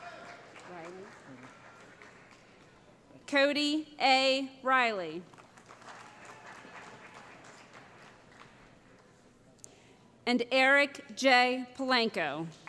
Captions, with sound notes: [ Cheering ] Cody A. Reilly [ Applause ] And Eric Jay Palanko